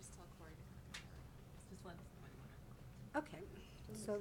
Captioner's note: people chattering